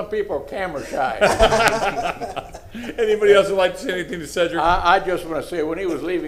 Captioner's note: laughter